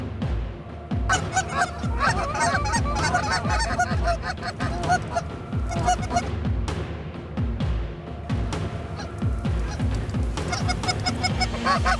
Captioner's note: goose calls